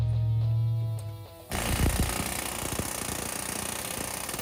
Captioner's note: drilling